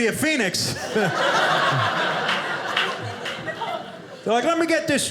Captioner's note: audience laughing